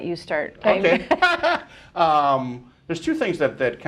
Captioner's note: laughs